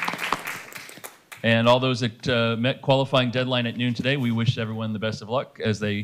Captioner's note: applause